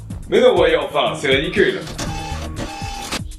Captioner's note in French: Ayant une voix robotique; Bruit de mouvement robotique